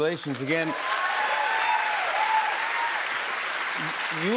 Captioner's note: cheers and applause